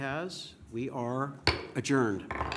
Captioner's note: gavel bang